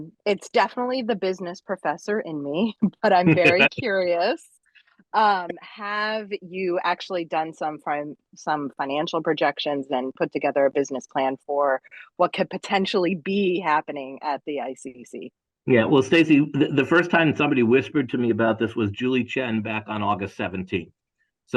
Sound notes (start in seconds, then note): 3.2 laugh